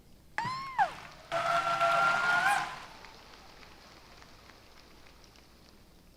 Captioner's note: applause